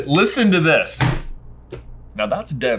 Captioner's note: pie slams loudly on the table